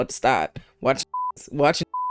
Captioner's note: beep